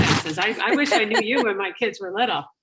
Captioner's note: laughing